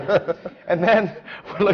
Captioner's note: laughter; laughs